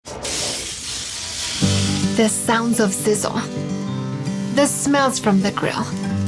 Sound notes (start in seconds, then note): 0.0 sizzling